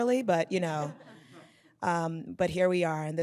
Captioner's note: audience laughs